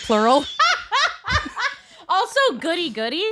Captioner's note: laughing loudly